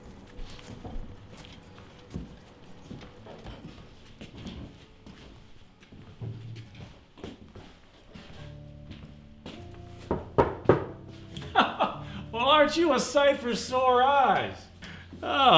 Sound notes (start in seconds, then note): 2.3 boots thudding; 10.1 wood rapping; 11.3 laughs